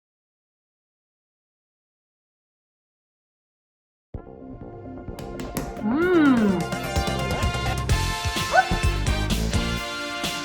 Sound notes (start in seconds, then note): 5.1 upbeat music; 5.2 pounding dough; 7.6 upbeat music